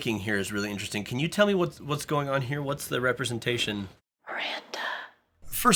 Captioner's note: whispers